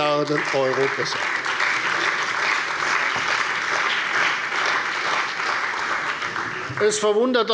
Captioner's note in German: Beifall bei der CDU und dem BÜNDNIS 90/DIE GRÜNEN